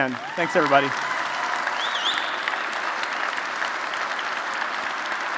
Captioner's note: applause